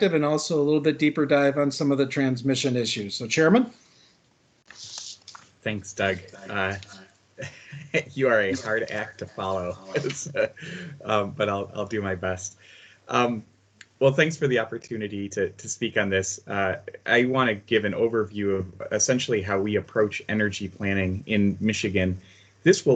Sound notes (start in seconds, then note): 7.4 laughter; 10.6 laughing